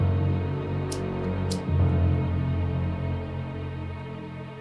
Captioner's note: lighter clicks